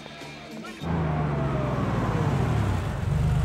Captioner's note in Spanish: rugido del motor del coche